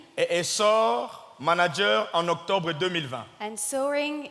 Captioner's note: speaking in French